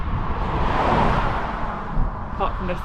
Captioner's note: car passing